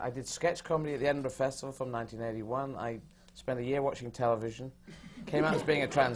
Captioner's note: laughter